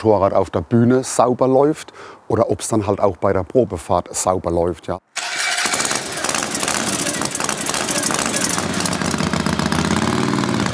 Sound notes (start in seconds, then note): 5.1 starter noise; 6.7 engine noise